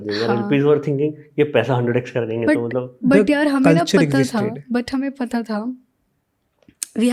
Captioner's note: speaks in Hindi